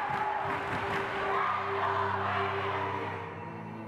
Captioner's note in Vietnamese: học sinh reo hò